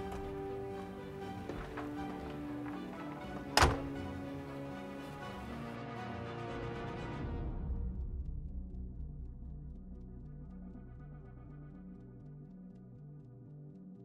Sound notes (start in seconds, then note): 0.2 suspenseful music; 3.7 door shuts; 10.2 suspenseful music